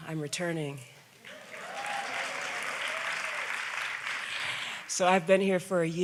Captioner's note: audience applauds